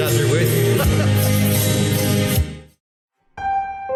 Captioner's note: laughing; mysterious music